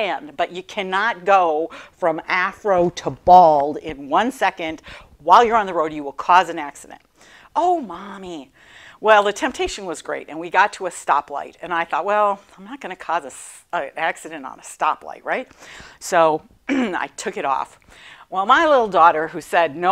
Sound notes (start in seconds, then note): 16.7 clearing throat